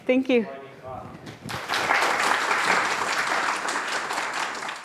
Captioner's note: applause